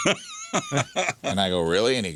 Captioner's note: laughing